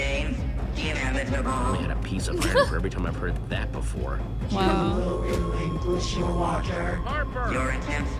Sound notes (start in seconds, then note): 2.3 Sabrina laughs